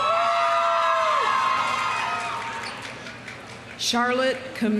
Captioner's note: audience cheering; audience applauding